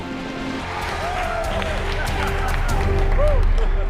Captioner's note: cheers and applause